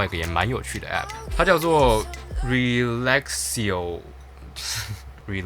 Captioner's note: laugh